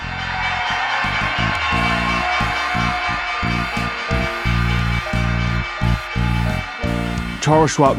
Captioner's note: bell ringing, applause